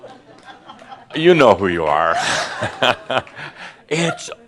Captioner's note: Adamus chuckles